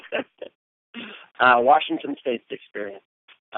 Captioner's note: chuckle